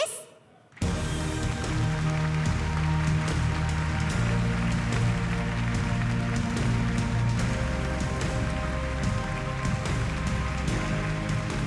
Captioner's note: applause